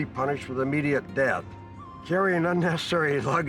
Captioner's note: laughs